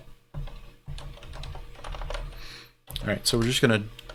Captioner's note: keyboard keys clanking